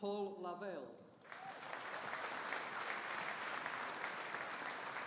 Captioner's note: audience applauding